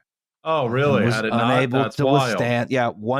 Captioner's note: sarcastic